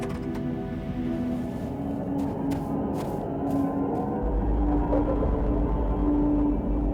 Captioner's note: soft ambient music continues; wind howling